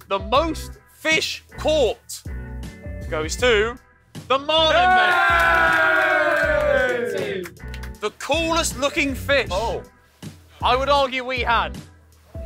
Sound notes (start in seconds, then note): 4.6 cheers and claps